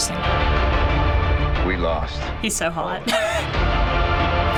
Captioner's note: chuckles